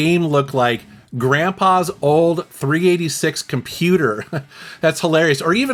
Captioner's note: laughs